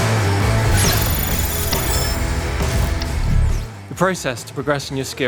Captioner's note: electronic buzzing